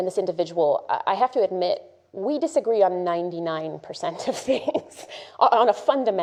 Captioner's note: laughs